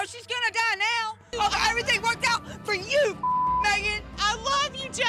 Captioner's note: beep